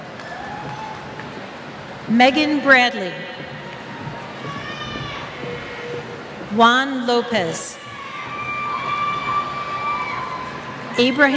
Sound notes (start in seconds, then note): 3.7 cheers